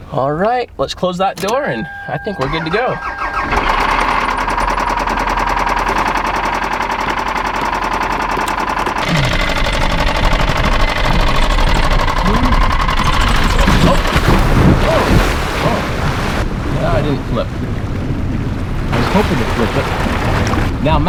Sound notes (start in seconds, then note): 3.1 car engine revving; 13.3 water splashing